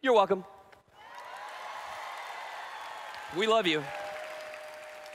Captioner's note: applause/Cheering